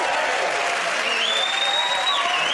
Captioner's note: cheers and applause